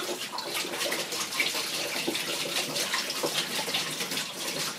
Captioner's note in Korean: 콸콸